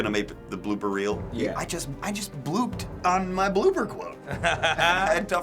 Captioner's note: chuckles